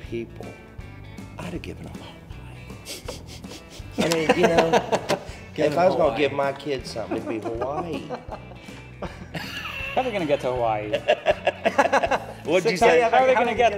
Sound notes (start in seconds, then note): 2.6 laughs; 6.9 laughs